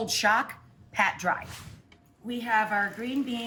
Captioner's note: air whooshes